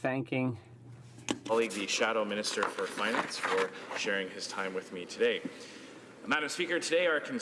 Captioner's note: some Applause